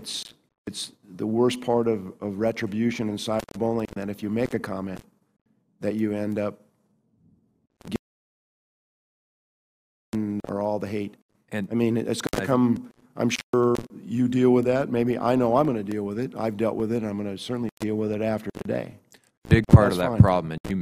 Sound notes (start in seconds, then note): 8.0 audio cuts out